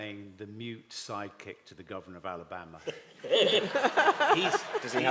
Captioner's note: laughter